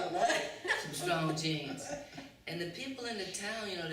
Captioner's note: laughter